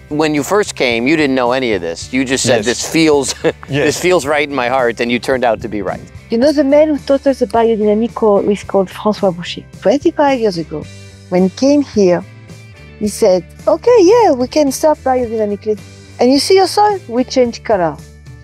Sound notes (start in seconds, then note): 3.1 laughs